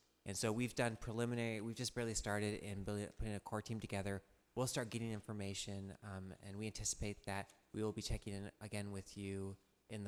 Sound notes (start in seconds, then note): none